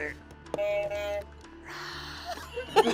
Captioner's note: buzzer buzzes